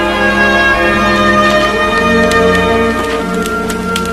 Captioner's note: fire crackling